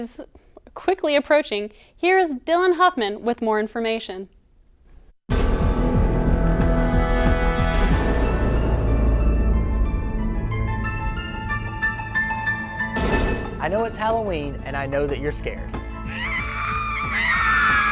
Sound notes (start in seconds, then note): 5.3 scary Music; 10.3 scream